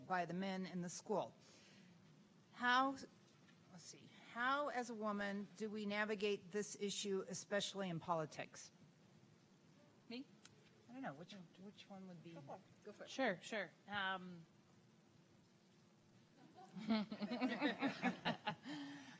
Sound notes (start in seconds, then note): 16.4 laughter